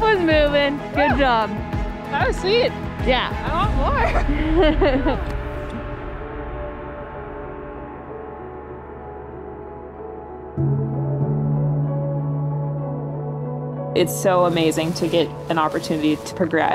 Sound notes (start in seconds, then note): 3.8 laughing; 7.2 calm music